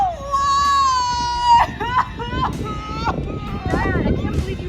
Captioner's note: sobs